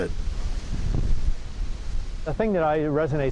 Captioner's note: wind blowing